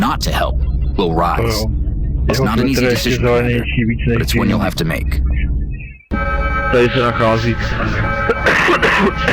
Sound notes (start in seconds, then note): 8.1 coughing